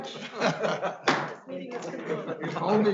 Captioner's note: members laughing; gavel banging